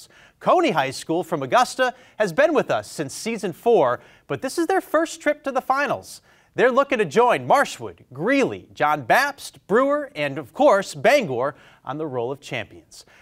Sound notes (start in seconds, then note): none